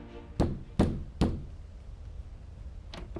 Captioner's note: knocking sound